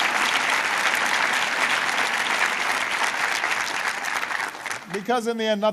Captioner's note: applause